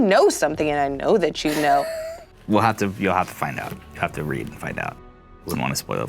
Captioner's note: laughs